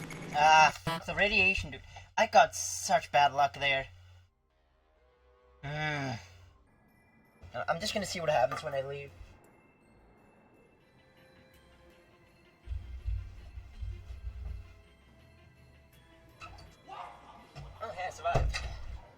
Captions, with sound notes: Ah, f*ck, the radiation, dude- I got such bad luck there. [groan] Y'know what, I'm just gonna see what happens when I leave. Oh, hey, I survived!